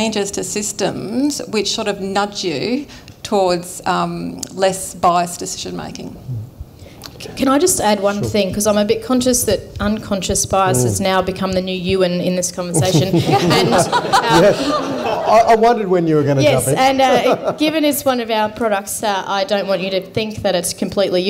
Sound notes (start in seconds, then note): 12.7 laughter